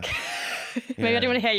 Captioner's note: laughter